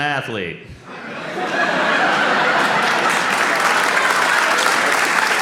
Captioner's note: audience laughs and applauds